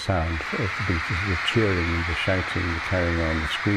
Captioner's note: crowd cheering